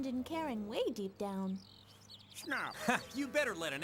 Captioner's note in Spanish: enojada